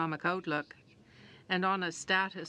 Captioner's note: speaking French